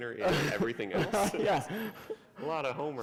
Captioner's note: laughter